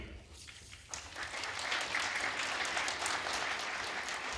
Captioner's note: applause